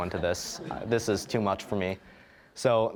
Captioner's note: audience laughing